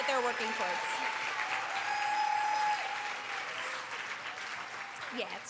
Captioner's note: cheers